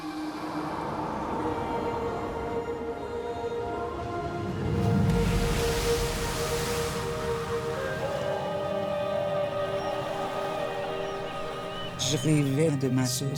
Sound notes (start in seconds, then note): 0.5 wind gusting; 2.4 singing continues; 5.0 waves crashing